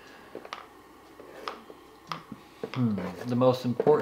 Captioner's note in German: Gegenstände klappern auf dem Tisch